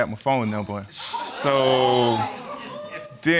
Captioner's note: audience exclaiming